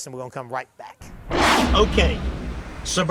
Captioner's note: dramatic booming